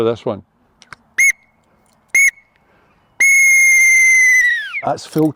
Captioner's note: whistle Blowing